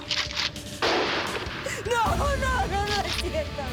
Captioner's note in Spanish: Disparo